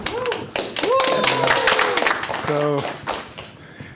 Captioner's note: applause